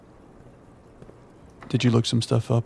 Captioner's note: silence